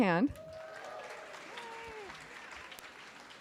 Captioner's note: clapping